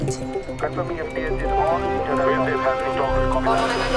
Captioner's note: speaking over PA system